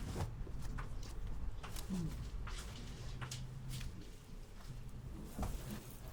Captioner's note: clothes rustling continues